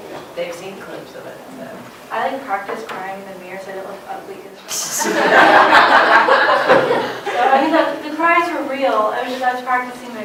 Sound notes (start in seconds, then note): 5.0 laughter